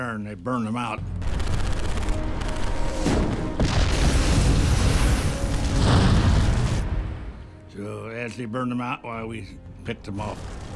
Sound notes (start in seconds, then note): 1.2 rapid gunfire exploding; 4.0 flamethrower roaring